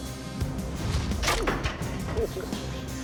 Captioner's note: clank